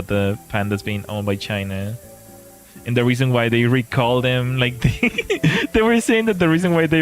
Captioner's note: laughter